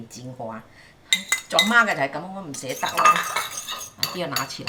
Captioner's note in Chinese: 廣東話